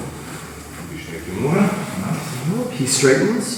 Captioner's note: speaking in a foreign language